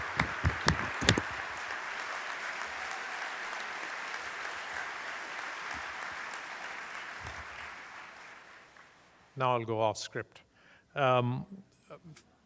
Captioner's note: applause